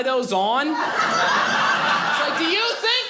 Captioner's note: audience laughing